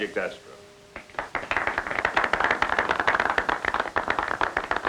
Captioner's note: crowd clapping